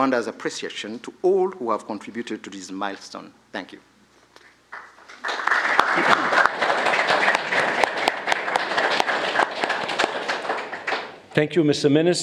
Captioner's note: applause